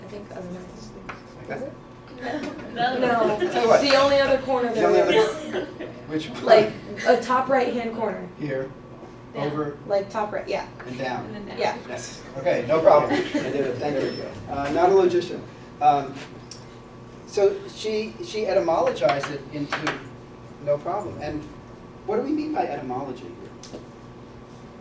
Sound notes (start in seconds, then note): 13.1 laugh